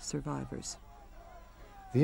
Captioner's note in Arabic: صراخ الحشد